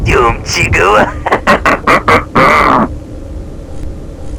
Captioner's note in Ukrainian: Зловісний Сміх